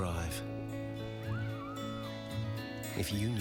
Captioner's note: children cheer